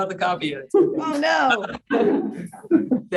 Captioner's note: laughing